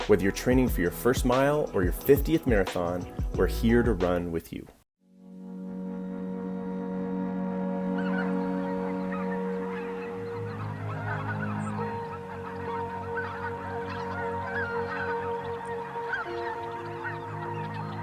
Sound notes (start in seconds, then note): 5.9 upbeat music; 8.3 birds squawking; 14.9 birds squawking